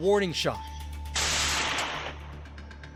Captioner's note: gun fires